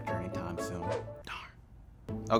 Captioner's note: swoops